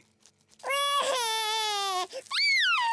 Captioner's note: cries